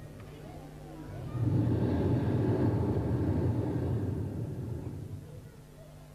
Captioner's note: shri mataji blows into the microphone